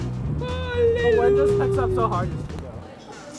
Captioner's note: more screaming